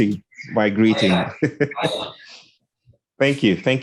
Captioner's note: indistinct conversation